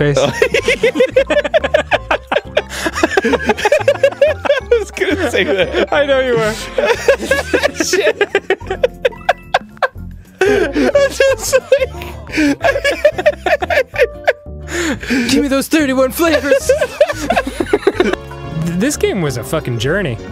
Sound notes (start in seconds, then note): 0.1 both laughing; 4.6 laughing; 6.3 both laughing; 10.4 laughing; 13.4 both laughing